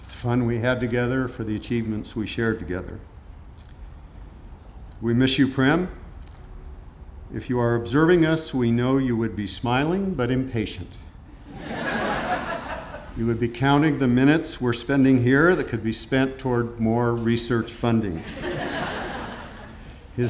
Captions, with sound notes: for the fun we had together, for the achievements we shared together. We miss you, Prem. If you are observing us, we know you would be smiling, but impatient. (audience laughing) You would be counting the minutes we're spending here that could be spent toward more research funding.